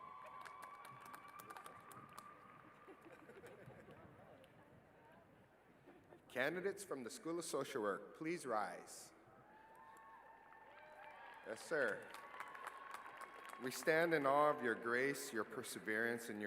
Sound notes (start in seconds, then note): 0.0 cheering